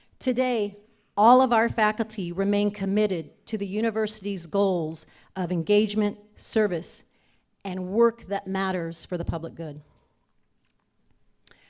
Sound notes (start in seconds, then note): none